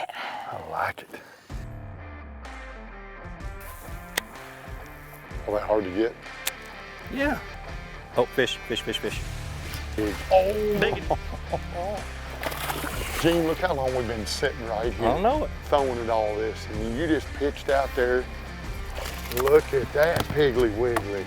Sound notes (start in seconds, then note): 0.3 rock music; 2.3 fishing rod clicks; 5.4 fishing rod clicks; 8.3 fishing rod zips; 10.6 guy laughs; 12.0 water splashes; 18.2 water splashes